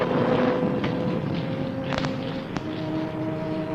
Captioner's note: thunder rumbling